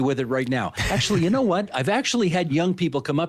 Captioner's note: laughing